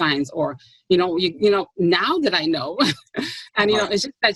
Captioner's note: laughs